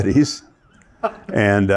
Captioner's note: producer laughing